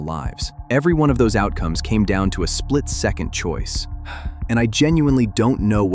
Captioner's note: sighs